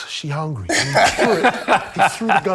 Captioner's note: laughter